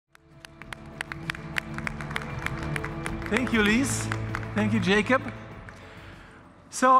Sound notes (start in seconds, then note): 0.1 applause